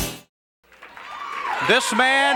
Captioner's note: audience cheering